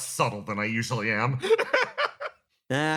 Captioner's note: laugh